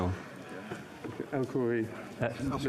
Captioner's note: speaking French